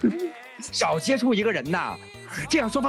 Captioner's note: laughing